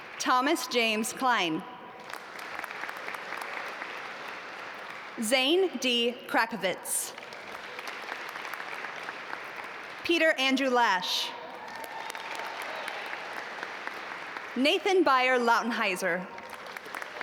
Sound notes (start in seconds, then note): 0.0 audience applaud; 2.0 audience applaud; 7.1 audience applaud; 11.5 audience applaud